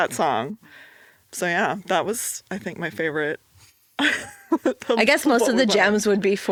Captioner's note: chuckles